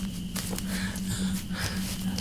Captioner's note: panting